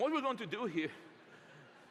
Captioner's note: laughter